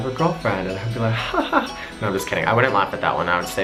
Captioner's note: laughs